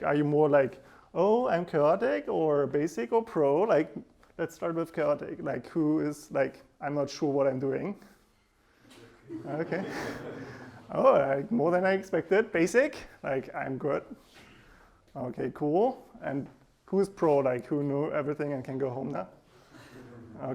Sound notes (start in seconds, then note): 9.1 students laughing